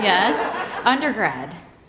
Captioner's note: laughter